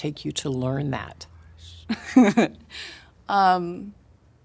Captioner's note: laughing